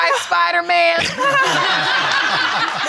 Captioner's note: all laughing